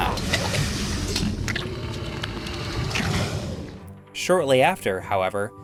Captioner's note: game audio